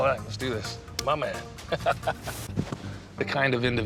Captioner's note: laughs